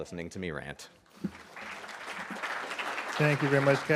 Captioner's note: audience clapping